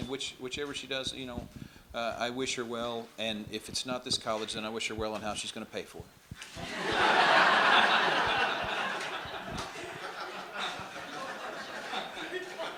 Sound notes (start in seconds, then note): 10.7 crowd laughs